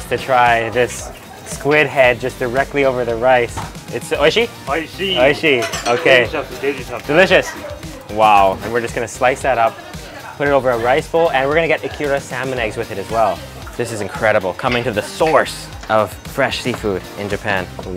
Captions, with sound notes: to try this squid head just directly over the rice. It's (speaks in foreign language)? (speaks in foreign language) Okay. - (speaks in foreign language) Delicious. - Delicious! Wow, and we're just gonna slice that up, put it over a rice bowl, and we're gonna get ikura salmon eggs with it as well. This is incredible. Coming to the source of fresh seafood in Japan.